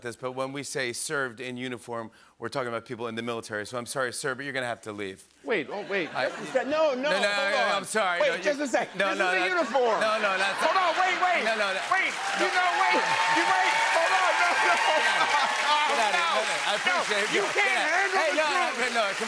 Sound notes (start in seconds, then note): 5.8 laughter; 12.1 cheering and applause